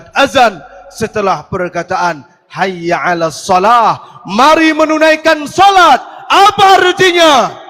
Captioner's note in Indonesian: berteriak